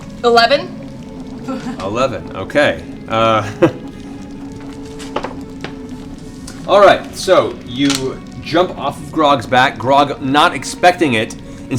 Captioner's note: laughs